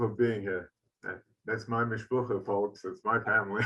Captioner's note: speaks in foreign language